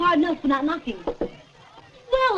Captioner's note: knocks